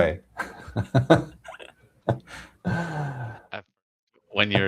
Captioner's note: laughter